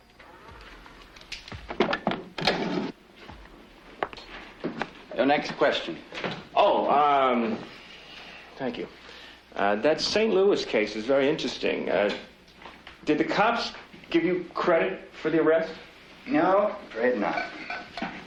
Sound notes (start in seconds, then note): none